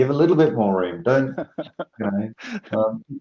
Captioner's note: gently laughing